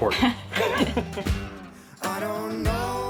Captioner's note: laughing; upbeat music